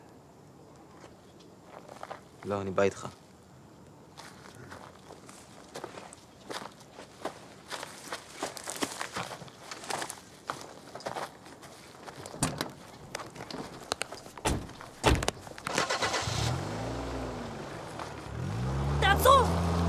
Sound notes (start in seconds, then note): 7.6 leaves crunching; 8.4 branches breaking; 15.6 car engine starting